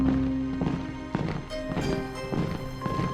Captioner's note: advancing marching